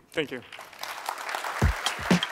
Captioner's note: applause